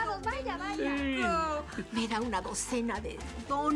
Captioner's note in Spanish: Ríe